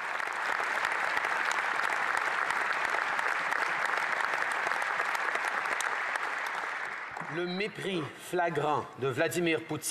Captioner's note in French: applaudissements